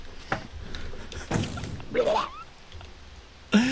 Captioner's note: wheezes